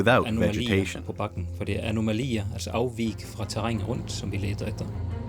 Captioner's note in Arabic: الصوت المنطوق باللغة الأجنبية